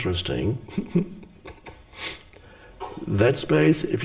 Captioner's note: Eckhart laughs